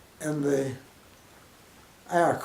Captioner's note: pause